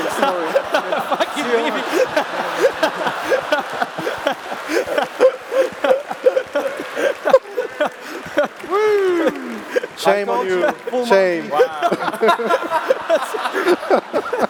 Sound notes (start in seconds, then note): 3.0 laughs; 13.3 laughs